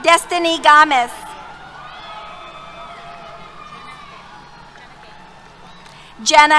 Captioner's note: cheers